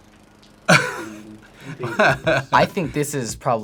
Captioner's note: laughs